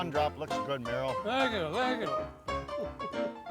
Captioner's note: chuckling